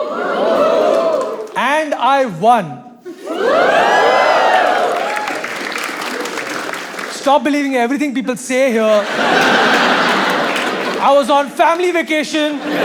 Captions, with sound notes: [audience cheers] And I won. [audience cheers louder] Stop believing everything people say here. I was on a family vacation.